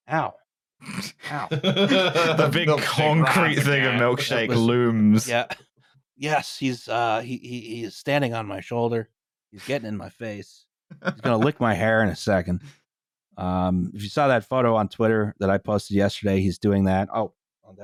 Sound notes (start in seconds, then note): 1.1 snorts; 1.2 laughing; 1.2 laughs; 10.9 chuckles